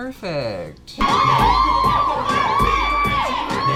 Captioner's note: women cheering; hip hop music